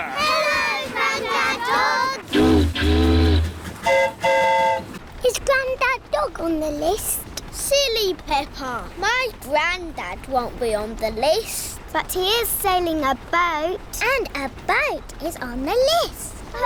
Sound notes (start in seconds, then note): 2.2 boat horn honks; 2.2 train horn toots